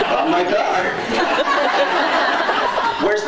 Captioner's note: laughs